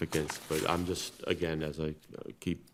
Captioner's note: paper rustles